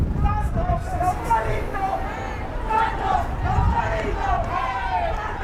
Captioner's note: fans chanting in foreign language